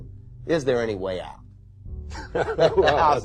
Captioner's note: Carl Sagan Laughs